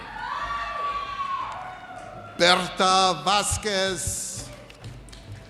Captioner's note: audience cheers